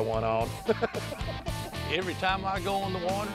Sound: laughing

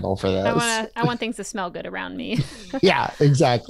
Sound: laughs

